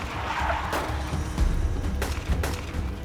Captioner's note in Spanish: Frenazo; Disparos